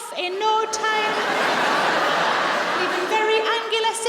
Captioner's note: audience laughs